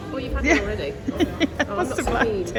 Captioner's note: laughs